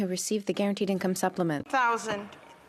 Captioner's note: speaking French